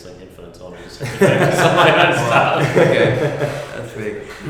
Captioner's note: laughter